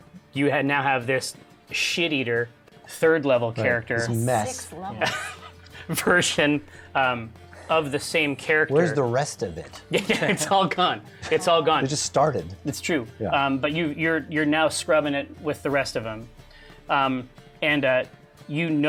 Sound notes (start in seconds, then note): 4.9 laughs